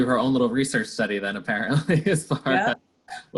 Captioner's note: laughs